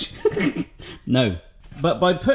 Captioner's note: laughing